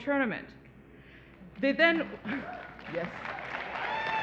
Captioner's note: applause